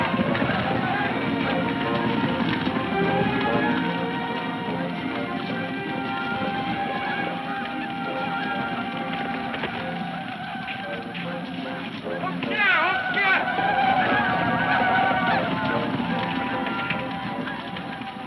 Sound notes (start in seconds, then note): 0.2 hooves thudding; 0.2 men shouting; 12.7 man speaks in a foreign language; 14.3 men shouting